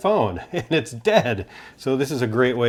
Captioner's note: giggles